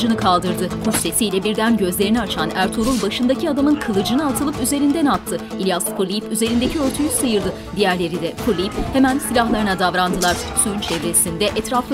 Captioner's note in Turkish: Dövüşme sesleri